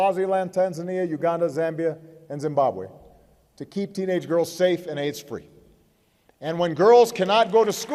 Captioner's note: applause